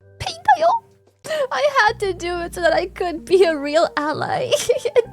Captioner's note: laughs